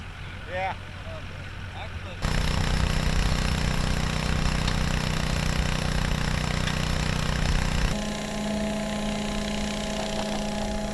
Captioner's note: engine sounds